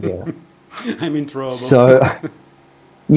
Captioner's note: laughter